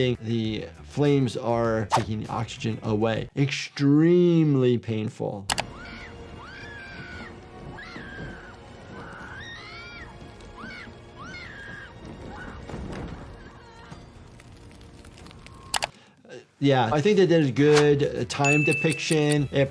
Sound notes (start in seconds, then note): 5.5 attacker wailing; 5.5 dramatic music; 7.8 flames whooshing; 14.1 flames crackling; 15.7 mouse clicking